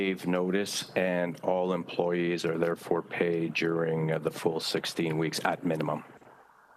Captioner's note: speaking French